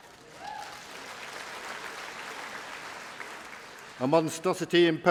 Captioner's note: applause